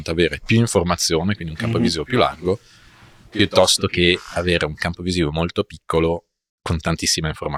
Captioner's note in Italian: sbuffare